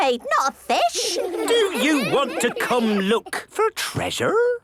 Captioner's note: children giggling